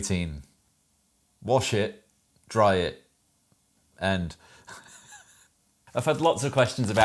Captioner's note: laughs